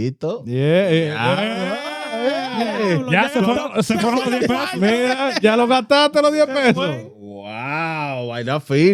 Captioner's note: speaking In Foreign Language; laughing